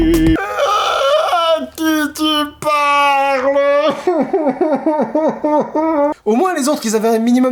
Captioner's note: crying and moaning